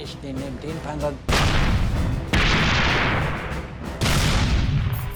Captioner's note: tank turrets firing